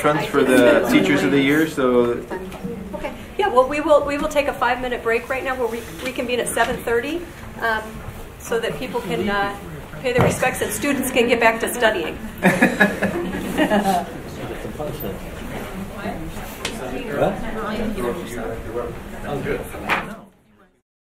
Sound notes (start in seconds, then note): 12.1 people laughing; 15.4 people chattering